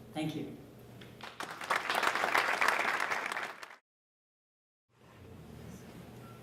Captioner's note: applause